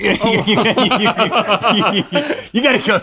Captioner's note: both laughing